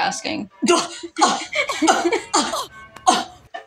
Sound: Imitating Jæmis Scoffing

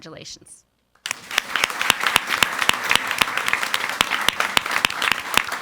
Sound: audience applauding

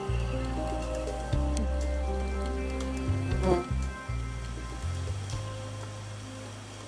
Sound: birds chirp; bee wings whir

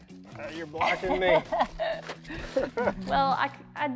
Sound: laughs

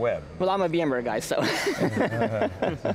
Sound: laughs

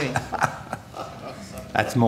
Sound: chuckles

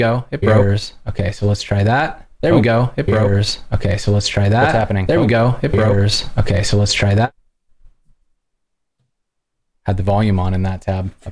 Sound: �Echoed audio�

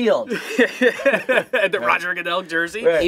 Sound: laughter

